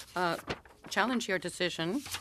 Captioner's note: speaking French